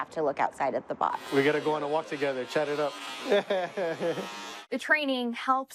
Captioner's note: laughs